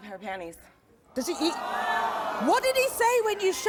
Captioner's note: audience groaning